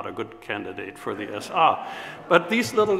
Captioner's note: audience laughs